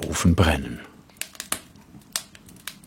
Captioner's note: crackling